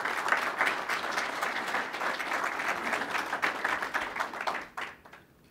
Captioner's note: applause